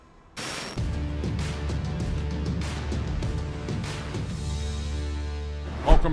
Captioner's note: static crackling; compelling music